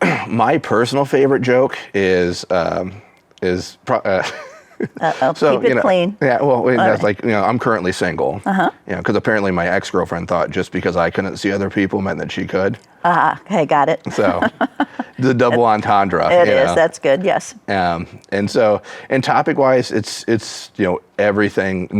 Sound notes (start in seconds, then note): 4.3 laughs; 14.1 chuckles